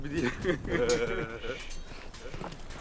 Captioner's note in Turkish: Gülme sesleri